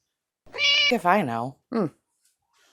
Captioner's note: meow